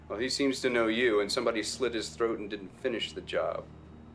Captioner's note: none